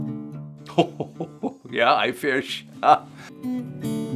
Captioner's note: laughing